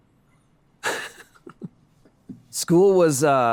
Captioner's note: laughs